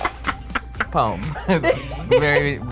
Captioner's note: laughs